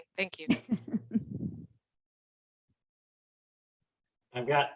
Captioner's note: laughs